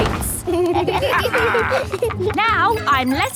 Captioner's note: kids and captain dog laughing